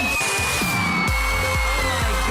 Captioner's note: cheering; melai squealing